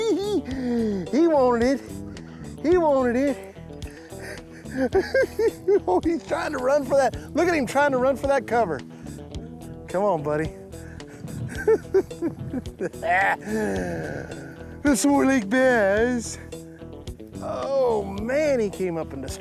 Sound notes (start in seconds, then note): 4.6 laughs; 11.1 laughing